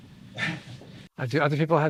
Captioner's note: chuckles